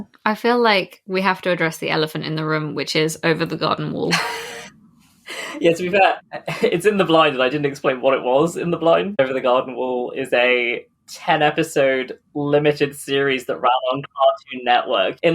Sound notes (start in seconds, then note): 5.2 laughs